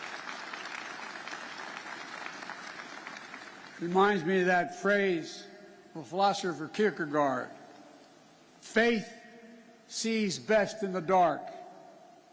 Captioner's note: applause